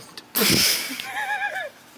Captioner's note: laughing